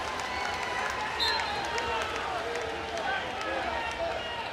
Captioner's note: whistle blows; crowd loudly cheering